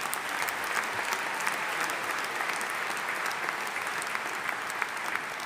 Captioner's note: audience applauding